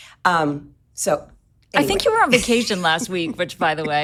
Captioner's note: chuckles